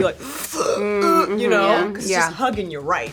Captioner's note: making suction noise